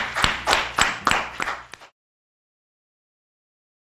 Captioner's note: applause